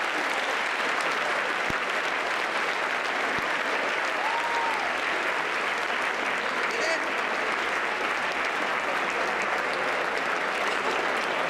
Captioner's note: applause